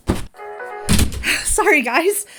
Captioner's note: ringtone continues; door slams shut